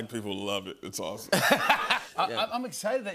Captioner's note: laughter